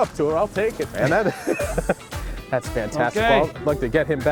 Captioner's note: laughs